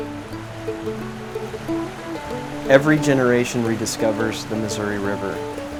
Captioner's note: water rushing